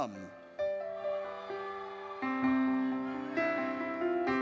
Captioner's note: audience cheers